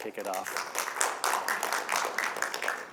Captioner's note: applause